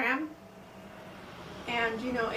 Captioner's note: SFX: car driving